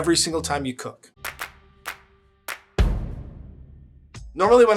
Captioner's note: hands clapping